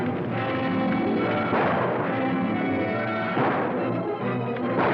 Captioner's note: guns firing